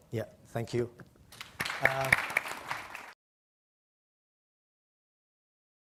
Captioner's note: audience clapping